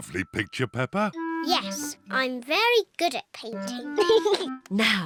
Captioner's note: giggles